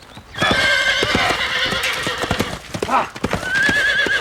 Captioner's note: horse neighing loudl